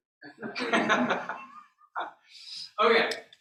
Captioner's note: laughter